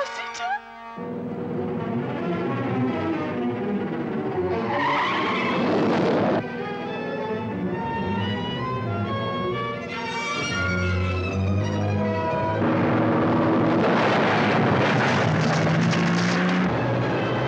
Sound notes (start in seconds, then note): 1.3 suspenseful orchestral music; 5.0 tires screeching